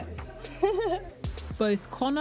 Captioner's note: laughter